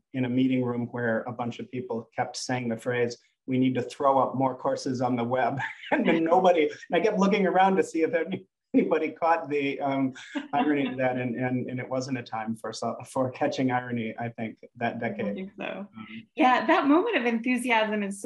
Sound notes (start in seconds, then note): 4.9 laughing